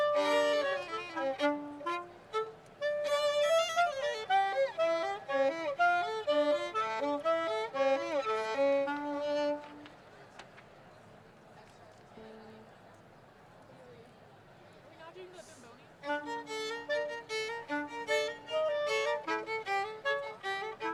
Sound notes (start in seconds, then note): 12.0 people chattering; 17.6 lively jazz music